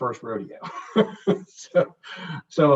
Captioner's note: chuckles